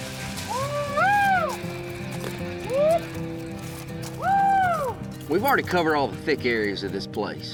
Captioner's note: exclaiming